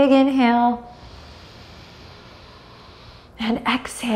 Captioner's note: deeply inhales